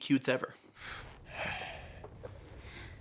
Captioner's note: exhales